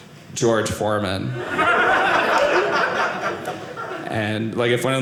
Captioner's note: audience laughing